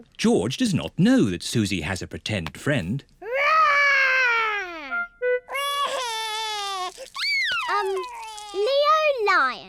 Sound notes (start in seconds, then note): 5.5 crying